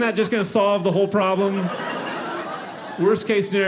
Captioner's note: audience laughing